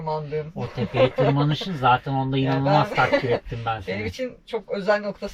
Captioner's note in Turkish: kahkaha